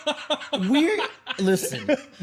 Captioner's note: laughing